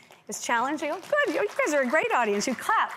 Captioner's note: audience claps